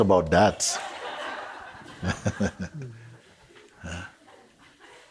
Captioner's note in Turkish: Kahkaha devam eder, Mooji güler